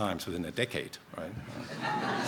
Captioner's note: laughter